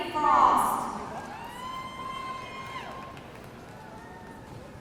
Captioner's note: audience cheering